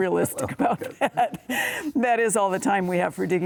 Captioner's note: laughing